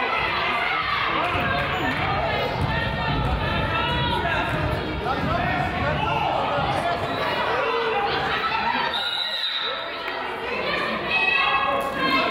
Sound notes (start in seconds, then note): 8.9 whistle blows